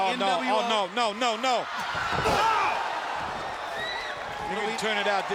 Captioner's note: audience cheering; wrestler screaming